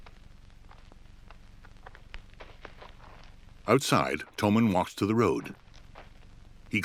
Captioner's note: footsteps crunching